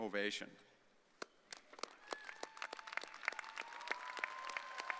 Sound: students cheering

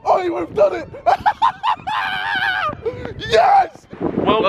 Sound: laughing

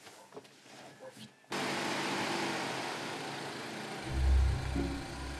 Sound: engine roaring

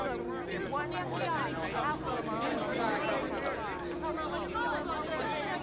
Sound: reporters Clamoring

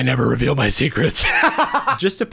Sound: laughing

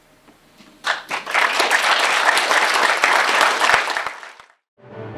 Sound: applause

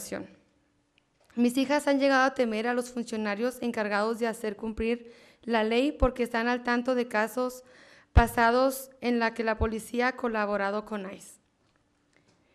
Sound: speaking spanish

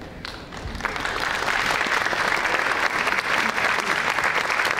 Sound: audience applauding

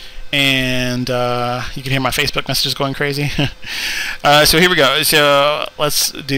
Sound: laughing

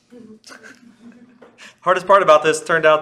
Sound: class and instructor laughing

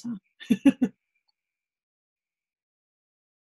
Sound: chuckles

